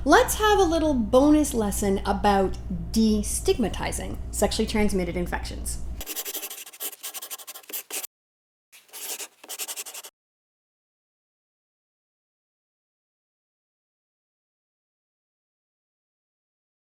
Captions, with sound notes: let’s have a little bonus lesson about destigmatizing sexually transmitted infections. [Scribbling] [Silence]